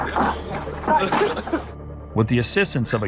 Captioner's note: laughter